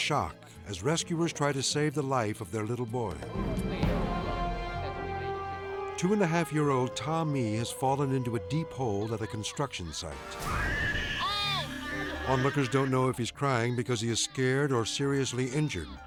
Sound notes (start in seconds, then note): 10.5 baby crying